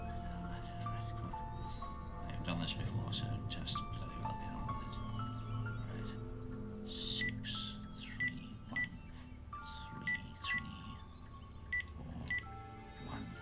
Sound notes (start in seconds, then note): 8.2 phone beeping